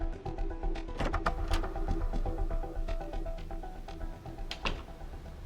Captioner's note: door clicking